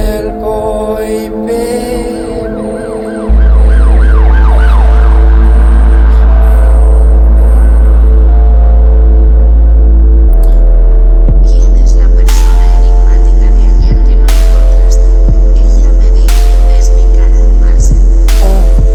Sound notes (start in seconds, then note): 2.8 sirens